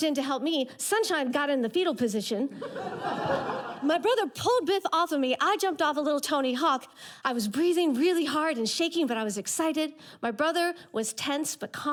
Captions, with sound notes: Sunshine got in the fetal position. (audience laughter) My brother pulled Biff off of me. I jumped off of little Tony Hawk. I was breathing really hard and shaking, but I was excited. My brother was tense but calm.